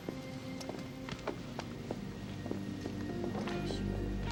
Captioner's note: hand pats